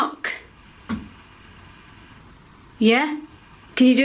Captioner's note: loud thud